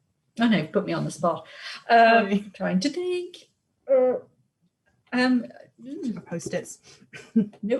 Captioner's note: sing song